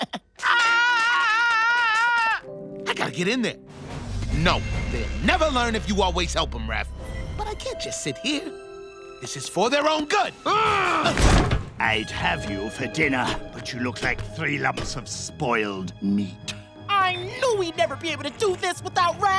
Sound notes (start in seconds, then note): 0.4 screaming; 10.1 groaning